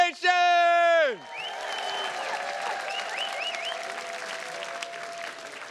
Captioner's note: attendees cheers and claps